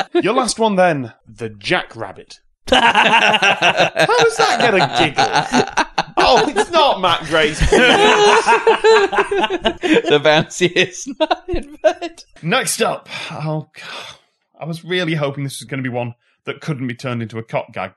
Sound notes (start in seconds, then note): 2.5 laughter; 8.3 laughter